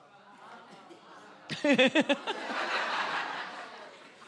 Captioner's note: laughs